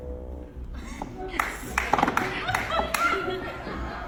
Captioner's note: applause